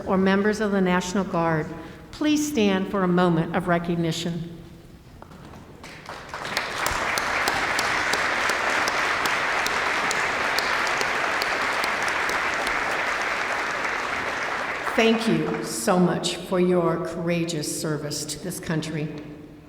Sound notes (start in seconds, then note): 5.8 applause